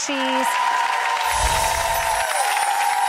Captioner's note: audience applause; twinkling chimes